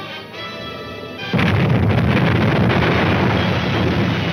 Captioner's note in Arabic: انفجارات متفجرة